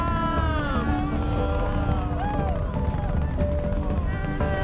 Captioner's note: cheers